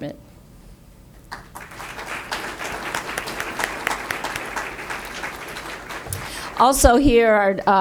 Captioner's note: audience applause